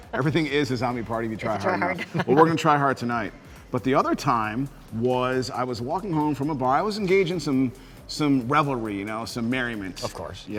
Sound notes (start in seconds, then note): 1.4 laughs